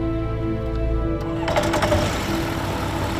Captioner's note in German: Motor wird gestartet